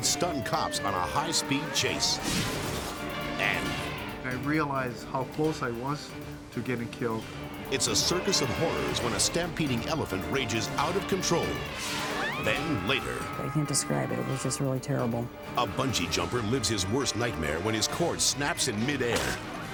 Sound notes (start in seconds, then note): 0.0 sirens blaring; 2.5 dramatic whoosh; 3.5 elephant trumpeting; 11.3 dramatic whoosh